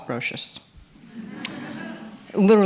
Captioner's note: laughter